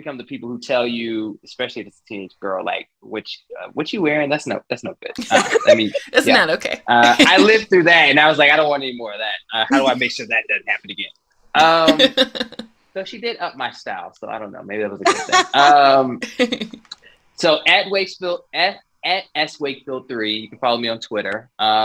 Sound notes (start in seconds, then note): 4.9 laughing